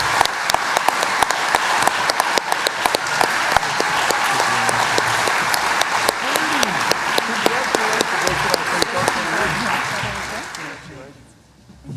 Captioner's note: cheering and applause